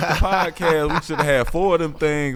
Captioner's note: laughing